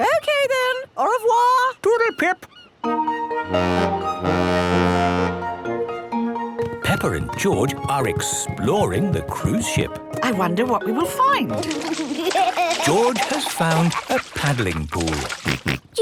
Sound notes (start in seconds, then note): 3.4 boat horn honking; 11.7 giggling; 15.2 George snorts